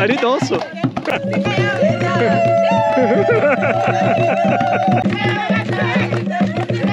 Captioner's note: laughs